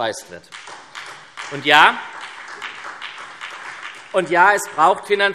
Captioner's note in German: Beifall SPD